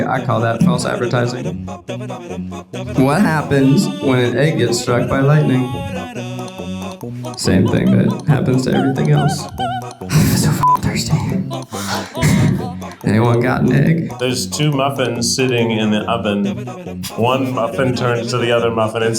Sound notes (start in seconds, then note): 10.6 beep